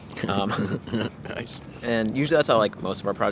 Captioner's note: both laughing